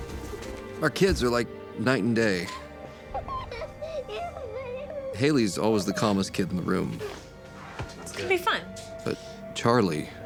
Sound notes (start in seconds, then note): 2.8 laughter